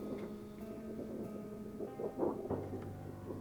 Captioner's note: wall rapping